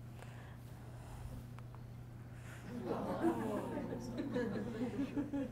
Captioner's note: audience aahing